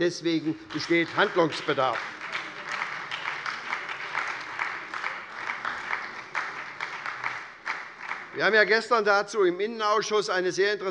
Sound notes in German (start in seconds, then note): 2.2 Beifall bei der SPD